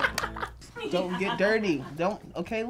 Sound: laughs

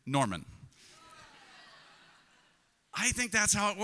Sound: congregation laughs

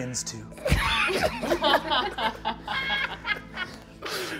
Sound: all laughing

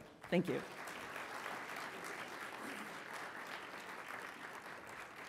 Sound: audience clapping

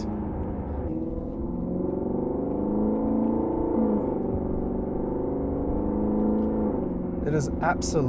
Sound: engine sounds

